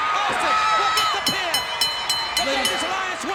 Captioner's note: bell rings